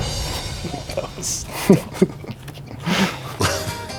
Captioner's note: laughing